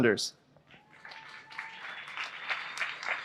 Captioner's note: applause